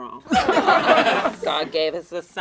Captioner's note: all laugh